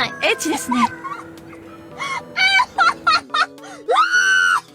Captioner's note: roaring with laughter